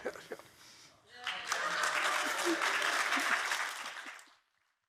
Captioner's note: audience applauds